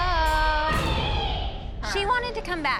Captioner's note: girls cheering